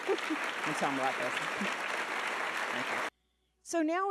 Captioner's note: audience clapping